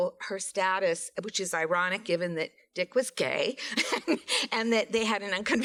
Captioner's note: laughs